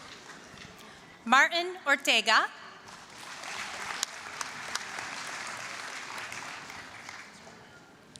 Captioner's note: applause; applause